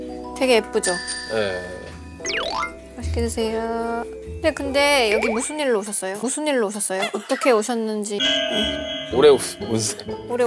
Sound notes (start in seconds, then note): 5.1 gulp